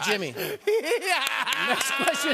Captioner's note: laughs